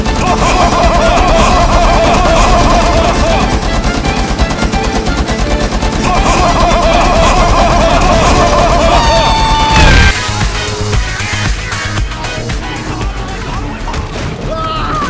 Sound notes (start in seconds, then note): 9.6 explosion